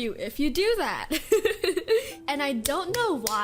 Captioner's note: laughs